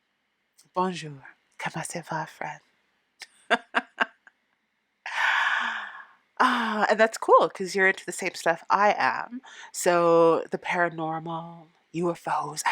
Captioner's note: laughing